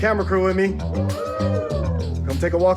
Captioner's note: cheering